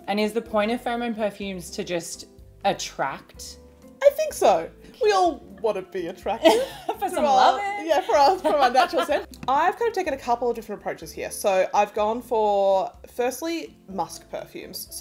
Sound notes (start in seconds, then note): 6.4 chuckles; 9.5 host laughs